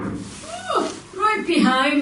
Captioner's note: knuckles wrapping on door; squeals